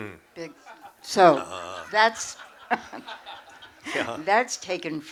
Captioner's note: laughter